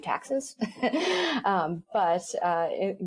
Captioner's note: chuckles